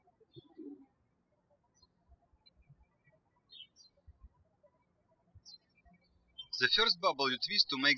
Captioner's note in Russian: птички щебечут